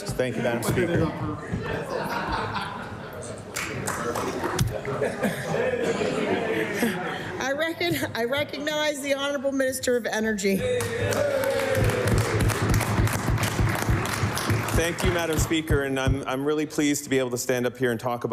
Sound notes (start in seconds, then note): 4.0 laughter; 7.3 chatter; 14.2 applause